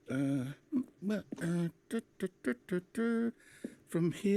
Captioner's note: humming